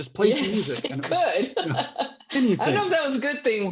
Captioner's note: laughs